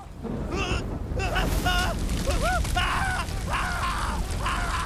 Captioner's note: screams